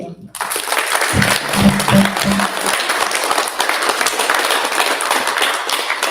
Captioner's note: applause